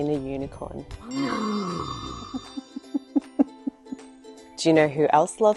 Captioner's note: unicorn neighing; laughing